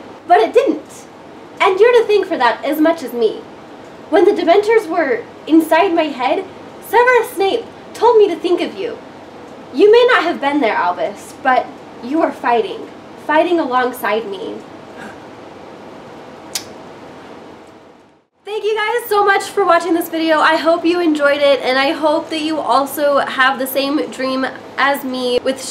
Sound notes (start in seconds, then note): 14.8 kiss; 15.0 Scorpius gasps; 15.0 gasps